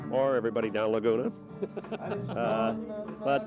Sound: reporter laughing

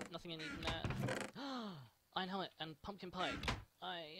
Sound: gasp

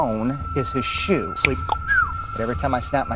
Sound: cluck-snap-whistle!

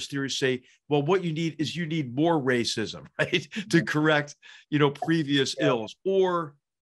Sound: laugh

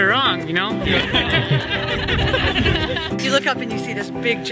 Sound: group laughing

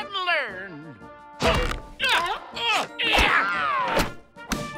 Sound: grunting

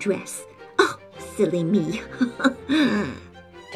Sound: giggle

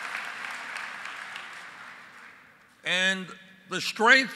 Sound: applause

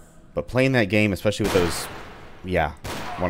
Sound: bang

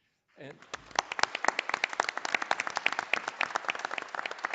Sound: audience applauding

